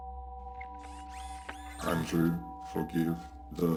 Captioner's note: soft ominous electronic music; Kellogg whirring